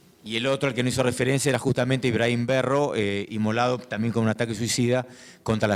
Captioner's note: speaking in foreign language